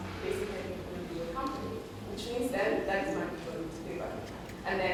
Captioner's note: none